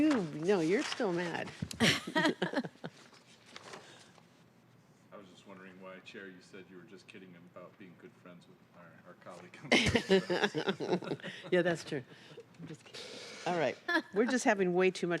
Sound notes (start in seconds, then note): 8.1 laughter